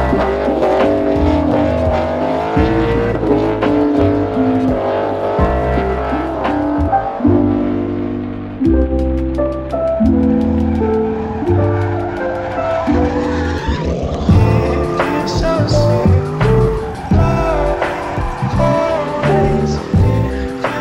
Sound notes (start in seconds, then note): 0.1 engine roaring; 10.9 tires squealing